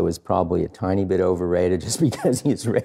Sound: laughing

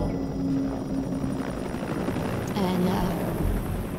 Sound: helicopters whirring

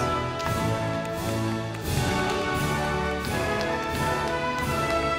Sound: audience applauding

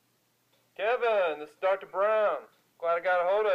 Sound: phone voice

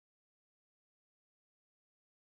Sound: in Dr. Xavier's voice

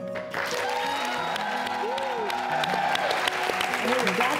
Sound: audience cheers

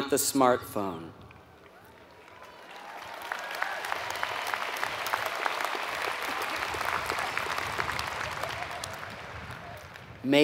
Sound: applause

